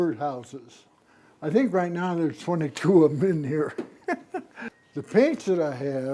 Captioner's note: chuckling